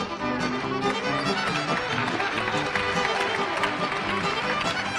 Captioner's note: applause